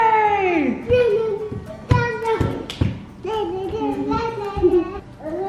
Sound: vocalizing and clapping

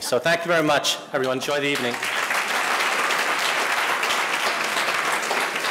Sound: audience applauding

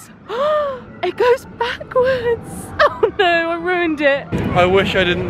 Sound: gasps

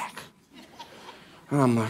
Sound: congregation laughing

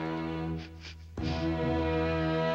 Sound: sniffs

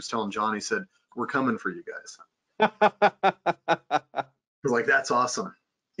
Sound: laughing

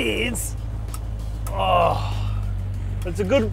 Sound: groans

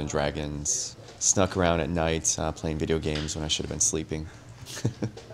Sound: laughs

